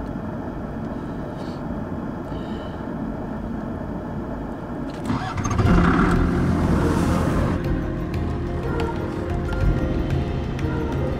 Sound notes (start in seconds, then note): 4.9 engine starts; 5.5 bright music